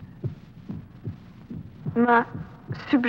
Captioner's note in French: battement cardiaque